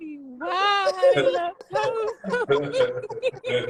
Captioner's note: laughing